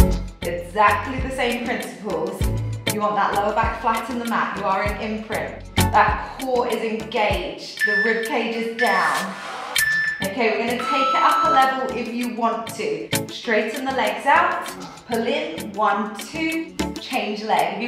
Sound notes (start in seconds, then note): 10.7 timer beeping